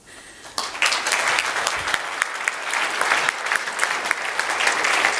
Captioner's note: applause